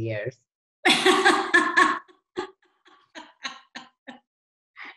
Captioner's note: person laughing